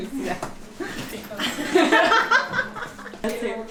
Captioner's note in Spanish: risas